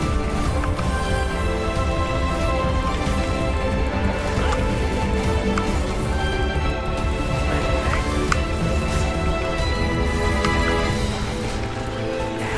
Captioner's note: applause